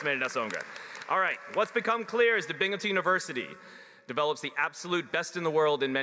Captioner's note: applause